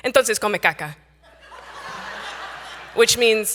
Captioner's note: audience laughing